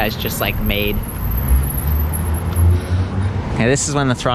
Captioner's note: brakes squeak